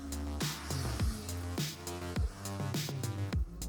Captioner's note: quiet traffic